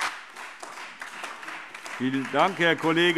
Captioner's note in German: Beifall Freie Demokraten